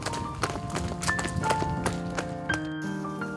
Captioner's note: tap tap tap tap tap